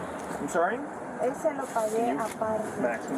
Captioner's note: speak in Foreign language